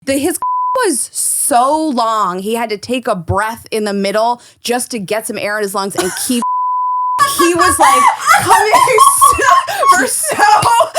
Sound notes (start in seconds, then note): 0.4 beep; 6.4 beep; 7.2 laughing